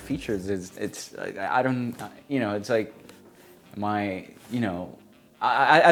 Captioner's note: stammers